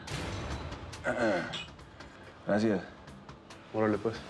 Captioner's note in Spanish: carraspea